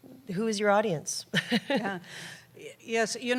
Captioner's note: laughter